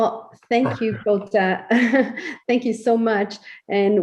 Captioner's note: laughs